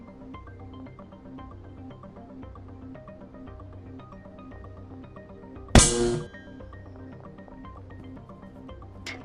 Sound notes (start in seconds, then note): 5.7 stun stick sound